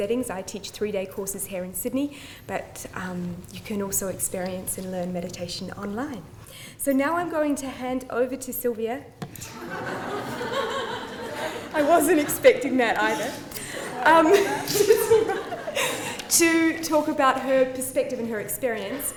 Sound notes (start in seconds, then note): 9.4 laughter